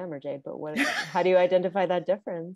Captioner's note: laughing